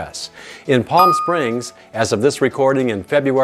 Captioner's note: bell dings